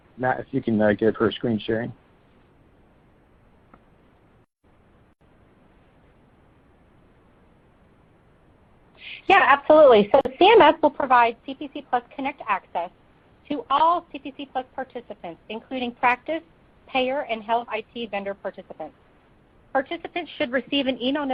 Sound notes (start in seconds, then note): 1.8 silence